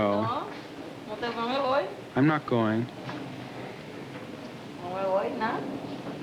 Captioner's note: Spanish speaking